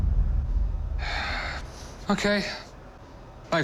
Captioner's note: sighs